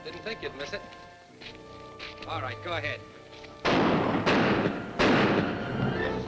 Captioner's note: gunshots